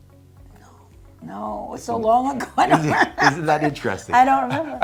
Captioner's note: bright upbeat music continues; laughs